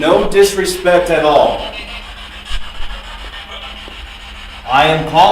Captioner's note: static buzzing